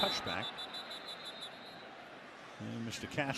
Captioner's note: whistle